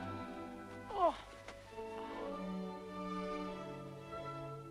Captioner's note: Hundra groans